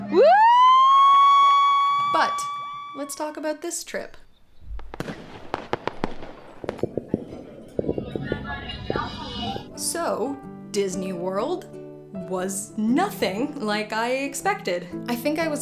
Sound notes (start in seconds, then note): 0.0 cheering; 4.6 fireworks